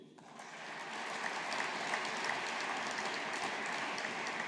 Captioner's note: audience applauding